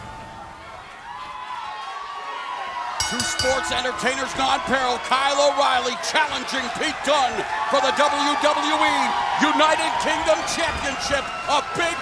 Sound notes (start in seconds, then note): 0.2 crowd chatter; 3.0 bell ringing